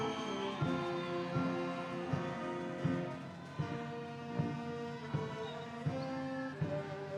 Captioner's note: audience cheers; orchestral music